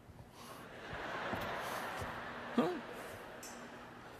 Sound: audience laughter

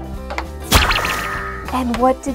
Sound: popping

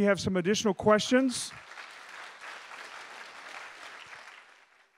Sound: audience applauding

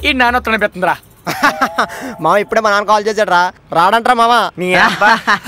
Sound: laughs; laugh in unison

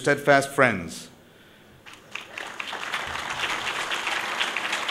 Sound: applause

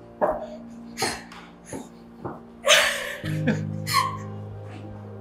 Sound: crying

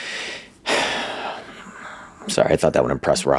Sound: sighs

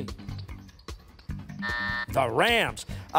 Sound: timer

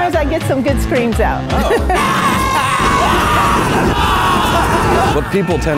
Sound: collective screaming

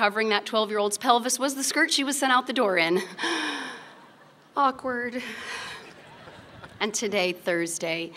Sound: laughter

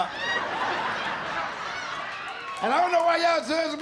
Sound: laughter

